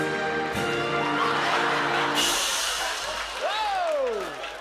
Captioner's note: laughter